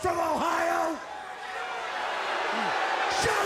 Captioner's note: crowd cheering